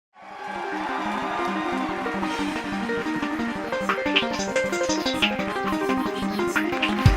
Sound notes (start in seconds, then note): 0.1 applause and cheering; 0.5 fast paced music